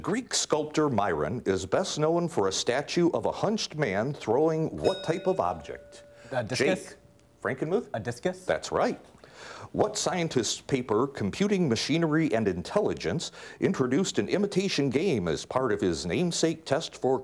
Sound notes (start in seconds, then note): 4.8 bells ringing